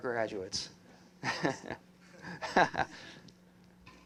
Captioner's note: laughter